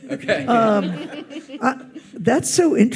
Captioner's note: audience laughs